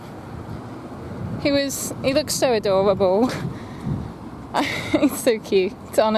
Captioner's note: chuckles